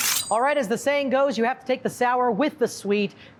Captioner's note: knives slicing